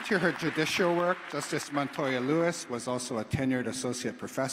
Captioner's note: applause